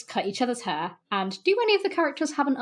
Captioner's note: none